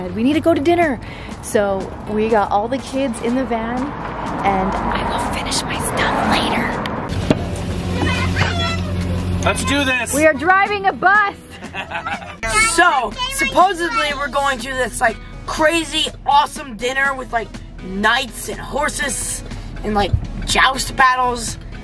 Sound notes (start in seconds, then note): 11.5 laughing